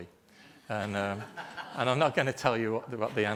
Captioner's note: group laughter